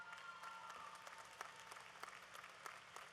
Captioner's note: applause